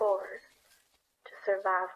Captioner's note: lantern swinging/creaking